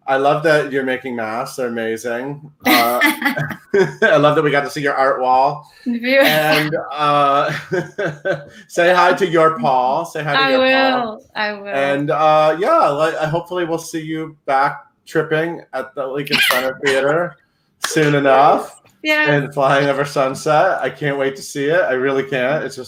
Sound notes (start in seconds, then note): 2.6 laugh